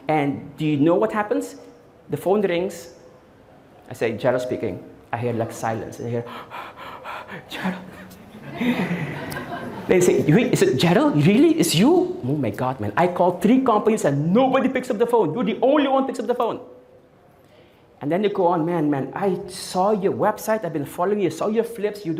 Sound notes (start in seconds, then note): 7.6 audience Laughing